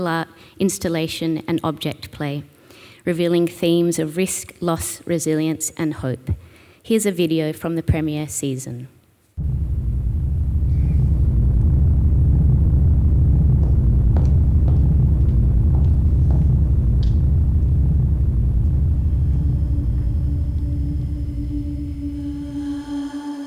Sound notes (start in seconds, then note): 10.7 footsteps echoing; 20.8 eerie music